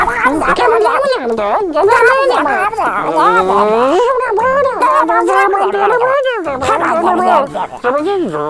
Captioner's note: puppets chatter excitedly; chatter continues